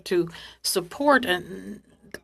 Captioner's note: speaking French